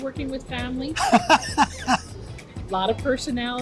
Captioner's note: laughs